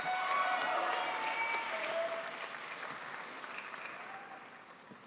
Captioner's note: crowd applauds